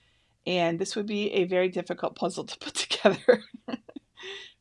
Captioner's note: laughs